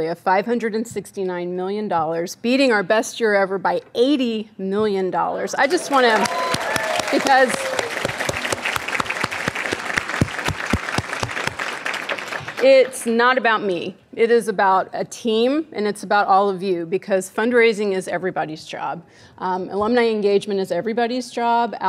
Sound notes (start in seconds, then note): 6.2 audience cheering; 8.1 audience clapping